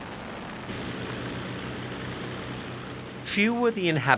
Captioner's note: plane roaring